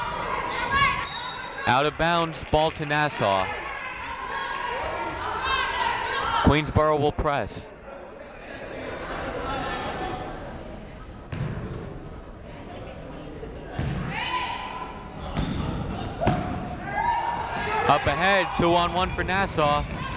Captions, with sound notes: (whistle blows) Out of bounds, ball to Nassau. Queensborough will press. Up ahead two, one, one for Nassau.